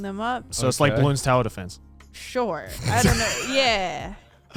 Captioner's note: men laughing